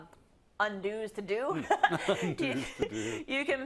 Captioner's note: laugh